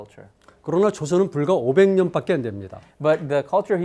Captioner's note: speaking in Korean